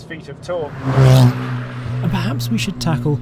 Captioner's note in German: Motorgeräusche